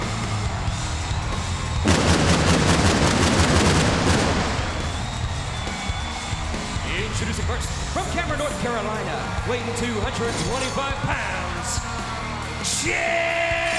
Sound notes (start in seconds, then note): 1.8 pyro blasting